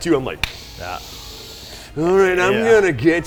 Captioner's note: inhales